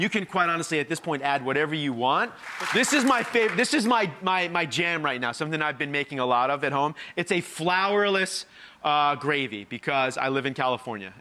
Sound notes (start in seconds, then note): 2.3 applause